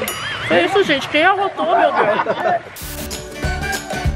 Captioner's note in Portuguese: risos